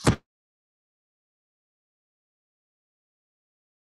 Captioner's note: silence